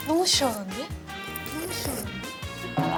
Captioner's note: slurps